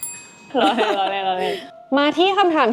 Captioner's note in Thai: เสียงหัวเราะ